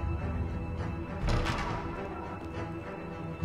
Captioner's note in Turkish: Kapı Gıcırtısı Sesi